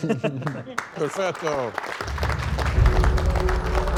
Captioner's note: laughter; applause